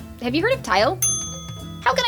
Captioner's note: ding